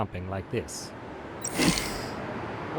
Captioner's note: door sush